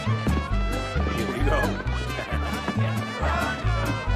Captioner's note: laughs